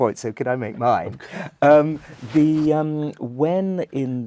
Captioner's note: laugh